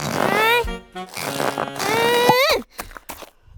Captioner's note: grunting; pop